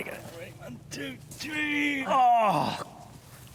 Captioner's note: Malcolm groans loudly